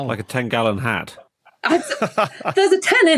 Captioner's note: laughs